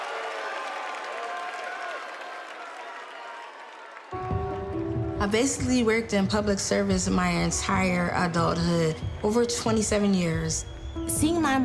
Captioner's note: applause